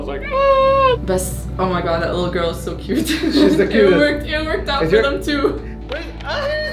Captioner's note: speaks in English